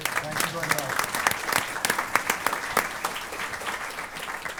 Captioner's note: applause